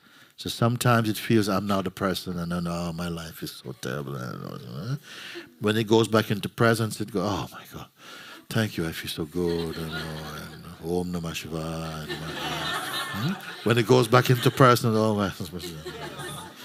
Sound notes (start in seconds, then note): 11.4 laughter